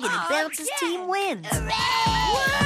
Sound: cheering

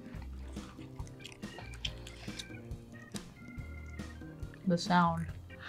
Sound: soft crunching

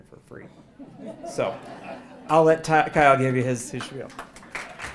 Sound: laugh; applause

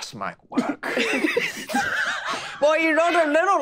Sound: group laughing

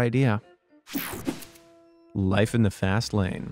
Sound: air swooshing

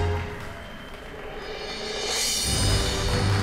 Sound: audience applauds; audience applause

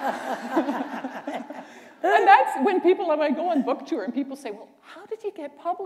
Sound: laughter

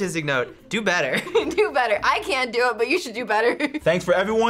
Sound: laughs

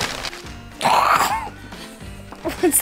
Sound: child gasps

